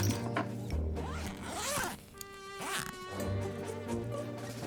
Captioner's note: quirky music; unzipping suitcase; quirky music